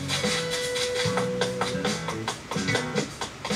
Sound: footsteps

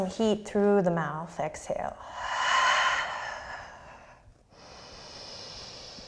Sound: deep breathing

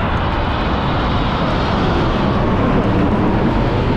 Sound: airplane engine

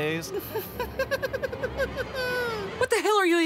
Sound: creepy Hojo laugh

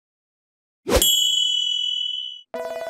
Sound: bell rings

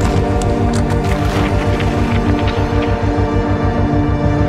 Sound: water splashing

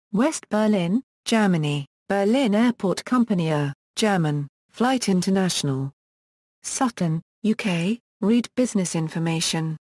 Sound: German

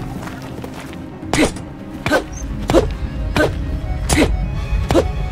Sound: Link noises

